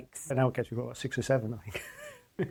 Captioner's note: laughs